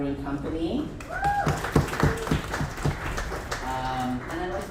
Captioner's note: audience applauds